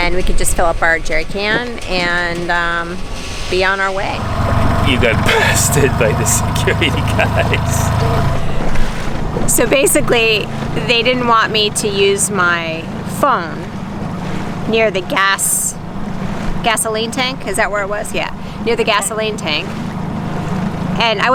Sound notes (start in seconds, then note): 8.3 laughing